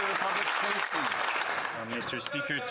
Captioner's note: applause